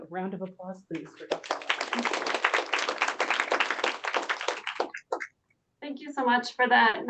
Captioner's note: applause